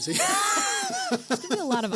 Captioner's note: both Laugh